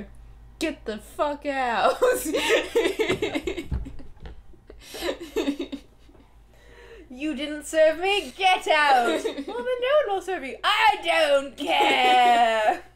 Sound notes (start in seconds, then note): 1.9 laughter